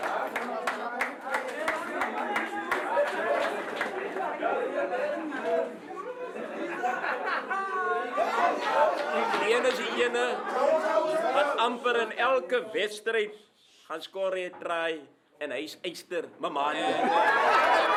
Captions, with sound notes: [APPLAUSE] [LAUGHTER] This one is for the guy who scores a try in almost every game. He's 'Iron Man' Memanie!